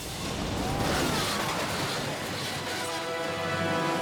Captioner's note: dragster crashes